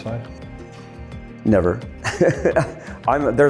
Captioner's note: laughing